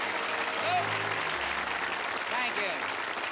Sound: applause

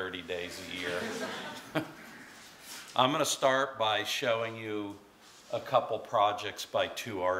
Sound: laughter

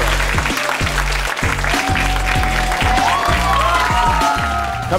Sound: audience applauds and cheers; upbeat music

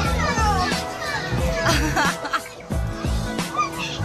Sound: laughing

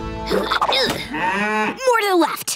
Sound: grunting; mooing

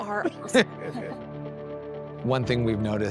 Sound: both laughing

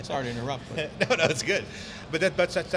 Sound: laughing

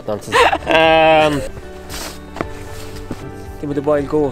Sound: laughing

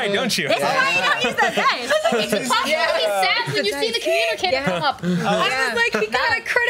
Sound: group chats excitedly over each other

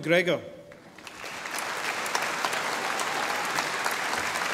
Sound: audience applauding

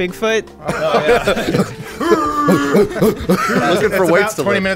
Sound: all laugh; grunting noise; grunting as if running

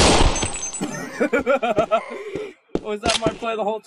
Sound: laughing

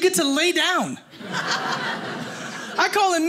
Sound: audience laughing

